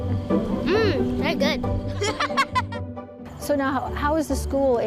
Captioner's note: laughing